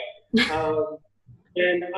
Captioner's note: laughing